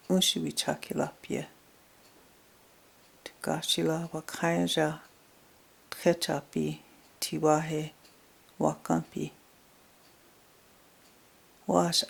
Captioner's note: speaking in Native language